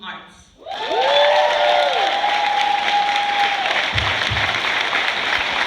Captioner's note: cheers, applause